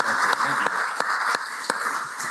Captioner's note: applause